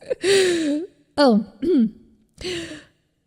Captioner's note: ahem